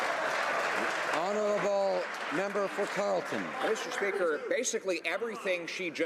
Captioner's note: some Applause